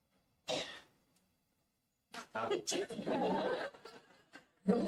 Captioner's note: laughs